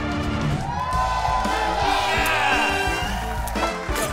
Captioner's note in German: Jubel, Applaus